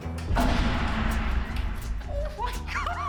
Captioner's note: distant explosion echoes; laughing